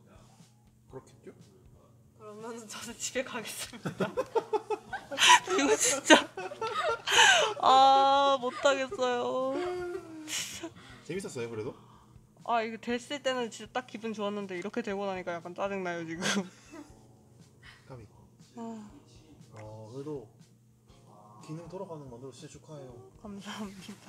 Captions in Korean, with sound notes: 그렇겠죠? 그러면 저는 집에 가겠습니다 (웃음) 이거 진짜 (웃음) 아 못하겠어요 그래도 재밌었어요? 이거 됐을 때는 딱 기분 좋았는데 이렇게 되고 나니까 약간 짜증나요 아깝다 (한숨) 그래도 기능이 돌아가게 만들었으니 축하해요 감사합니다